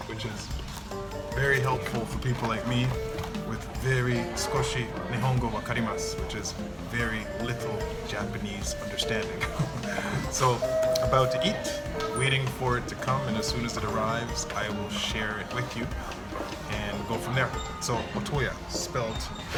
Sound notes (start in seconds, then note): 4.2 speaking in foreign-language